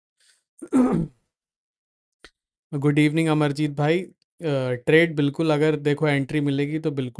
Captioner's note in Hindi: गला साफ़ करने की आवाज़